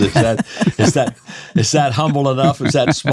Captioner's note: laughing